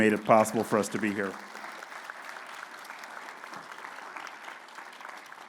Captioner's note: audience applauding